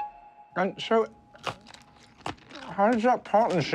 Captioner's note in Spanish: sonido de morder pretzel